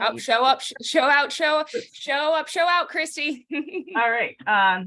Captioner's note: laughing